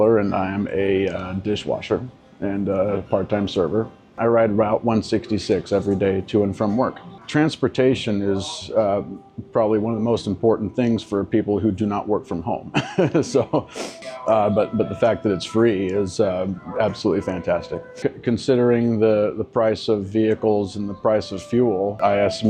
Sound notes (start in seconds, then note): 12.7 laughs